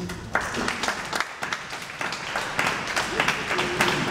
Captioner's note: audience applauds